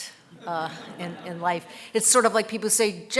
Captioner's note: audience laughing